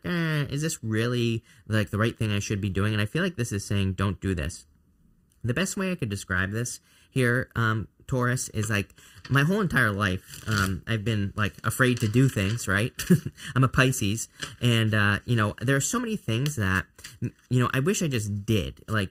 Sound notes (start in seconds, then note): 12.9 chuckles